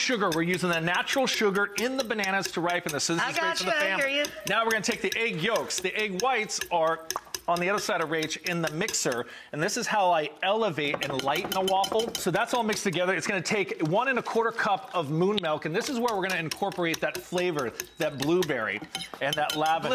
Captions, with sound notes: (whisking) We're using that natural sugar in the bananas to ripen this. I got ya, I hear ya. Now we're gonna take the egg yolks. The egg whites are on the other side of Rach in the mixer. And this is how I elevate and lighten the waffle. So that's all mixed together. (whisking) It's gonna take one and a quarter cup of moon milk, and this is where we're gonna incorporate that flavor, that blueberry and that lavender.